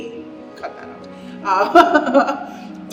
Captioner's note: laughs